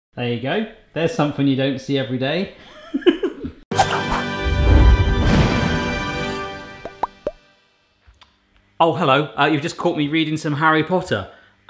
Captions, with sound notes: - There you go, there's something you don't see every day. (laughs) (upbeat music) Oh hello, you've just caught me reading some Harry Potter.